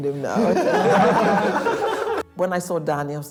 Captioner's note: group laughs